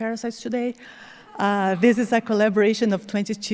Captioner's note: audience chuckling